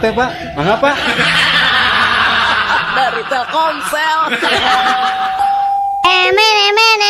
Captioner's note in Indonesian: tertawa